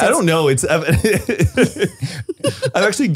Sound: laughs

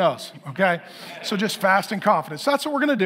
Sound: congregation laughing

